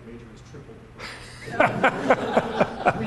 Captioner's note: laughter